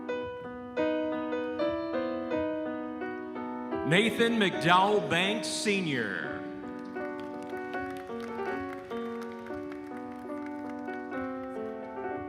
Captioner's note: applause